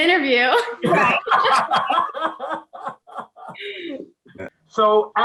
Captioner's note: laughing